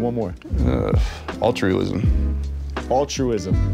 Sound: exhales

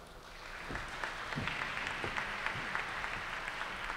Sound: audience applauds

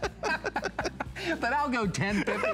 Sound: laughter

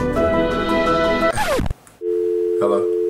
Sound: upbeat music; record screech; dial tone

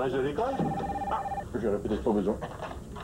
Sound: Le téléphone sonne

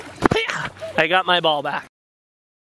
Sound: grunts

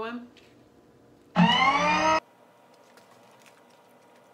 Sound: siren sound

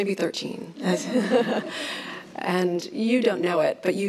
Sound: laughs

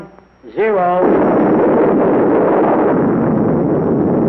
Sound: bomb blasting

